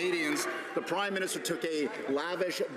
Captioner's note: applause